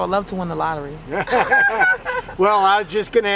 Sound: laughter

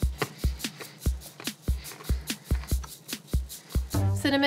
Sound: crunshing cookie

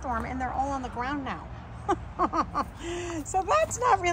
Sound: chuckles

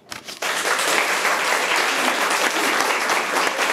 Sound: room applauds

